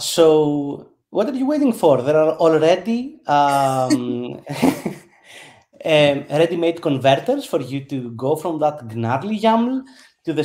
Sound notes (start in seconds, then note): 3.4 chuckles